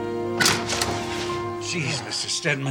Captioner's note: door opening